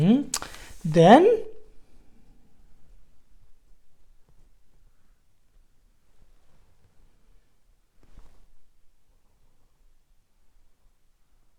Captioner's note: tibetan